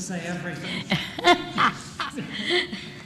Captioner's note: laughter